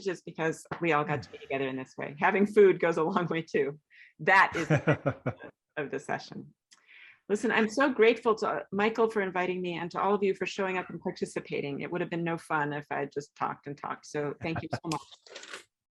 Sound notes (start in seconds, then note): 4.5 laughing